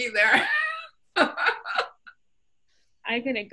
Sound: laughter

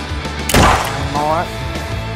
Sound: shot fired

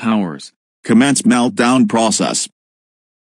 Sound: man over P.A

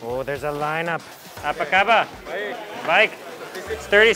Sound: speaking in foreign language

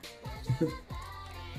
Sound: laughs

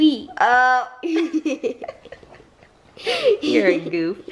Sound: laughing

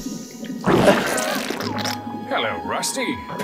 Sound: flatulence

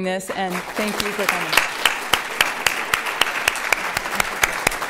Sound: applause

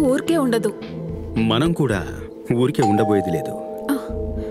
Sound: door bell rings

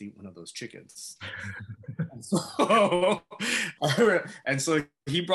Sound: laughter

